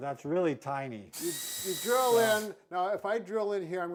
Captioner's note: drill whirring